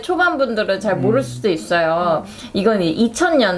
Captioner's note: mumbling: "When was this drama made??"